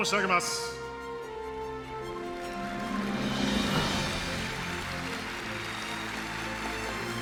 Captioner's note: applause